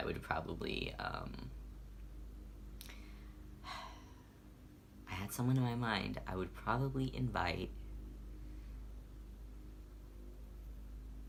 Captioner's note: sigh